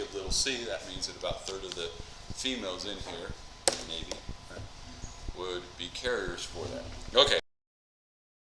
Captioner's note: mic cuts out